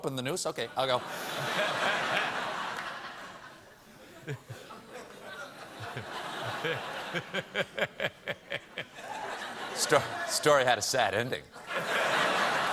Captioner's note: laughter